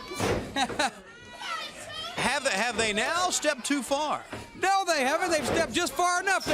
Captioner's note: crowd chatter